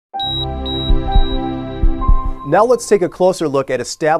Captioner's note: heart monitor beeps